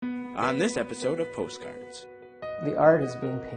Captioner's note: voiceover